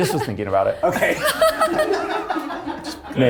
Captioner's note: cast laughing